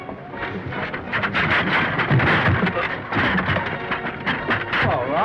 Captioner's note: seat clatters